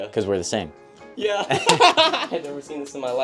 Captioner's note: both laugh